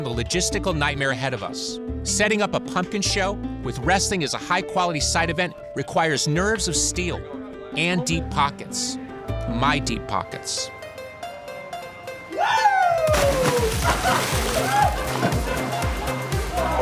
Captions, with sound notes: the logistical nightmare ahead of us. Setting up a Pumpkin show with wrestling as a high quality side event requires nerves of steel, and deep pockets. My deep pockets. Whoo! [LAUGHS]